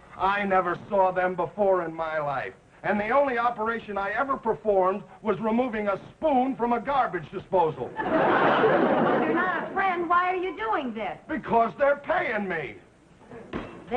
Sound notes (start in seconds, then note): 7.9 audience laughing